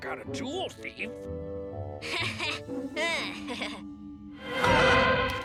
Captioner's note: Milo chuckles awkwardly